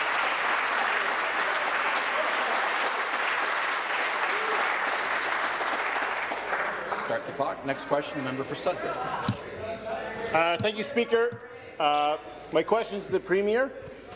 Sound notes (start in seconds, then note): 0.0 applause